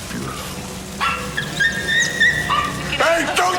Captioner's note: dog squeals